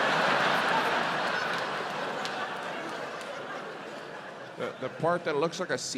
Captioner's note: audience laughs